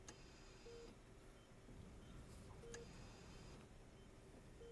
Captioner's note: monitors beep